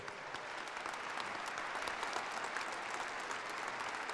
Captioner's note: audience applause